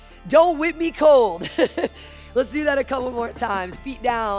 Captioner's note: laughs